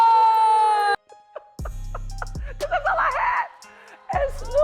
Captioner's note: laughing